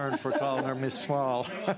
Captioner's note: laughter